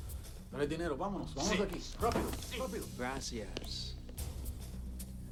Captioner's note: gangsters speaking in Spanish